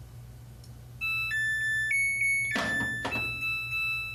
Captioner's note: chime plays